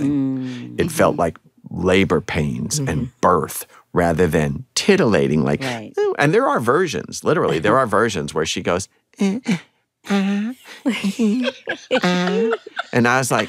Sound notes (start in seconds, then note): 10.1 faint moans; 10.8 laughter